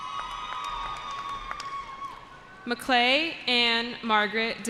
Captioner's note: cheering